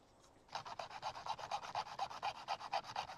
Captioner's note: scraping